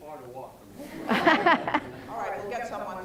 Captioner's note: laughter